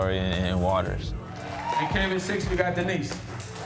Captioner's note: attendee shouts